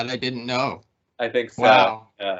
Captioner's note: laughing